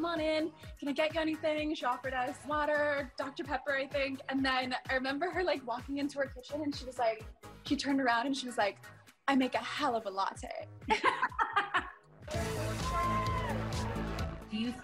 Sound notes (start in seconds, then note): 10.9 laughs